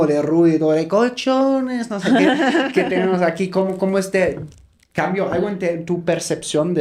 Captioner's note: laughs